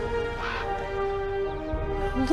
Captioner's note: ugly Bird Caw